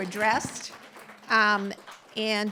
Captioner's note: applause